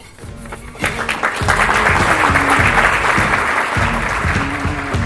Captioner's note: applause